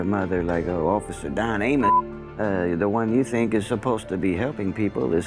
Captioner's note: beep